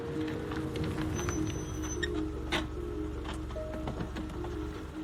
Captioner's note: car brakes squeal